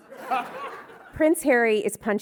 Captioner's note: audience laughing